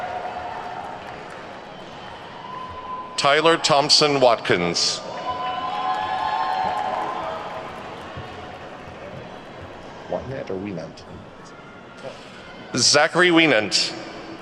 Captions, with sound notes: Tyler Thompson Watkins. (attendees whooping and clapping) Wyenandt or Wienandt? Zachary Wienandt.